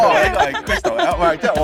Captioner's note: laughter